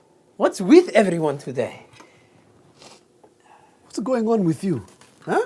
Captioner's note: sniffs